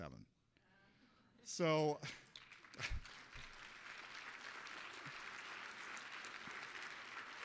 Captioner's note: applause